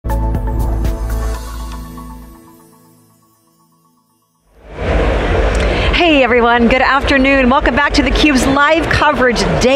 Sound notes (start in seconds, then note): 0.0 gentle upbeat music; 1.2 graphics chiming